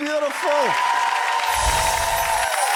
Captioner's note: audience cheering; magic wand music